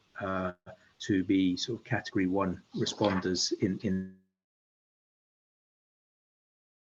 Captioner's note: audio glitches